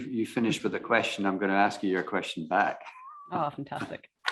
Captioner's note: laughs